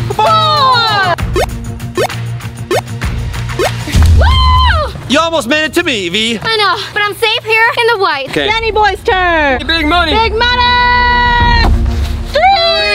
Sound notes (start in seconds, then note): 1.4 jump squeaks